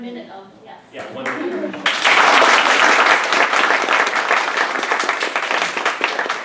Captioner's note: applause